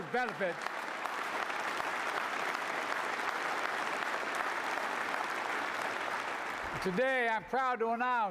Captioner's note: applause